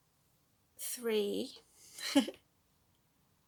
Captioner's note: laughs